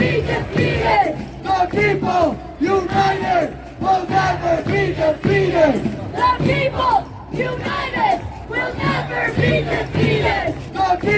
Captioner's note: chant